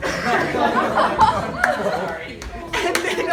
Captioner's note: laughter